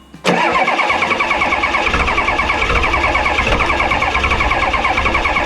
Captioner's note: car engine struggling to start